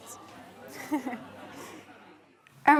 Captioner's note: laughs